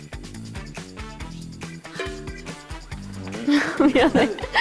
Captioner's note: cracking up